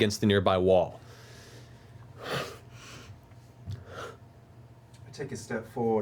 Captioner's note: heavy breathing